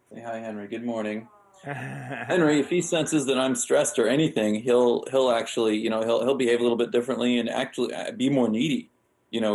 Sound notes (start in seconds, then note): 1.6 laughing